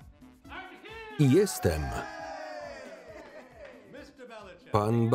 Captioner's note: cheering